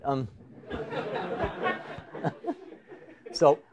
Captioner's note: laughter